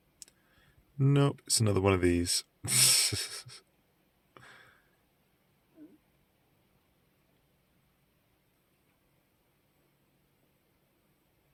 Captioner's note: laughs